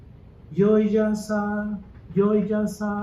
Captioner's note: chanting sounds